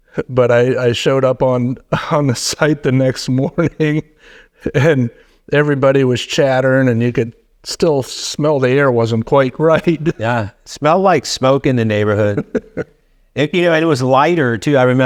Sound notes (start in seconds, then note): 9.7 laughing; 12.0 laughing